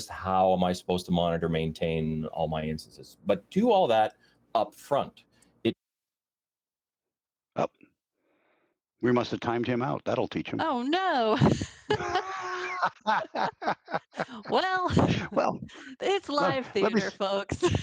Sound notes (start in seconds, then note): 11.4 laughing